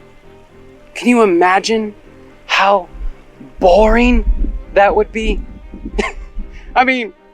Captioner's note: chuckles